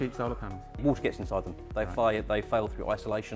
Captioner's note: pat